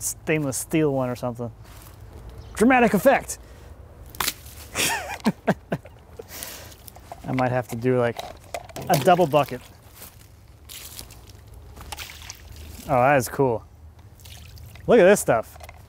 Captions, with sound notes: stainless steel one, or something. Dramatic effect. (chuckles) I might have to do like a double bucket. Oh, that is cool. Look at this stuff.